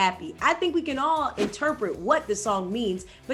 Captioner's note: scene whooshing